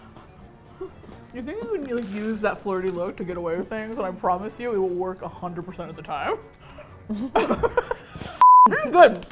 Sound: both laugh

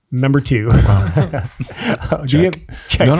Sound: group chuckles

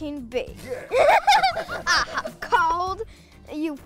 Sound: laughter

